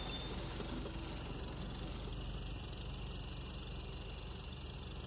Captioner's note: car engine idling